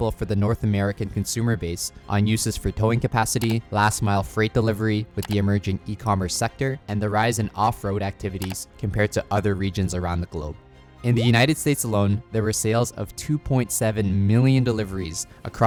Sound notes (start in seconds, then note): 3.3 cursor clicking; 5.1 cursor clicking; 11.8 graphics popping